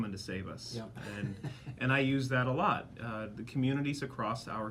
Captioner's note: laughs